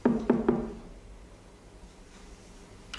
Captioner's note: knock on door